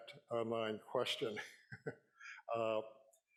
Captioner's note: chuckling